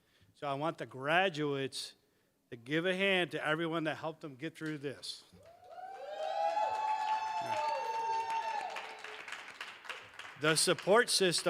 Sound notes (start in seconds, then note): 5.4 cheers, applause